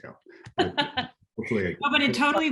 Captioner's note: laughs